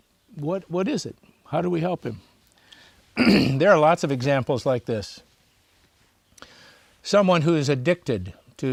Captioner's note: clears throat